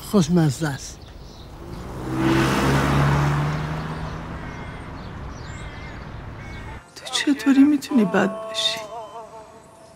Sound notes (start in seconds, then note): 0.7 car sound